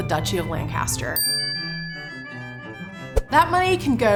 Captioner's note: bell rings